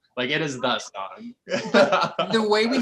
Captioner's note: laughs